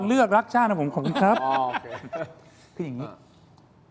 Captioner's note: laughs